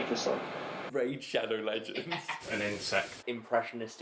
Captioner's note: laughs